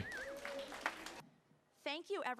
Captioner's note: applause